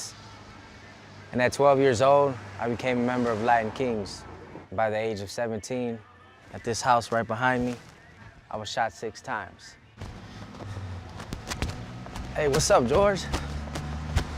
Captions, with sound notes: and at 12 years old I became a member of Latin Kings. By the age of 17, at this house right behind me, I was shot six times. (footsteps) Hey, what's up, George?